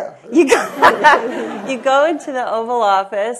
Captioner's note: laughter